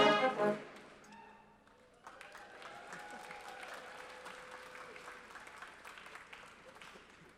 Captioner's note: applause